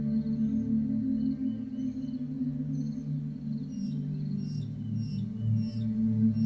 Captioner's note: birds chirping